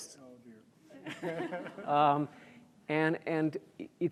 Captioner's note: audience laughs